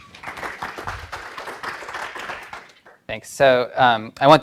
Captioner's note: audience applauds